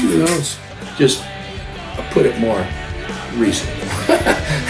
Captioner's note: laughs